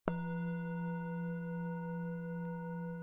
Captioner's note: bell chimes